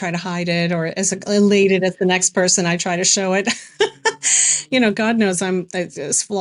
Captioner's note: laughs